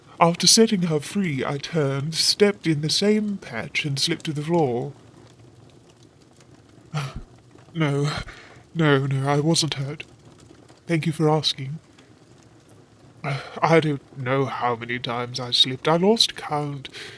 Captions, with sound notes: After setting her free, I turned, stepped in the same patch, and slipped to the floor. Ah, no...no. No, I wasn't hurt. Thank you for asking. [Sigh] I don't know how many times I slipped. I lost count!